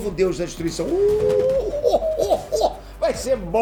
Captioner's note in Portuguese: Risada do Freeza